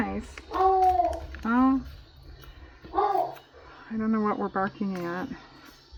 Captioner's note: dogs barking